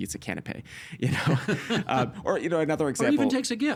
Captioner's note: laughing